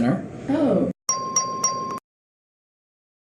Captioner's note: ding, ding, ding